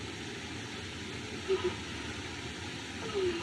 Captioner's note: whimpers